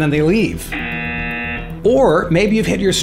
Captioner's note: buzzer